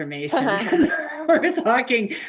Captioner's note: laughing in unison